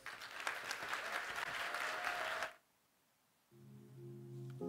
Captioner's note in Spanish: aplausos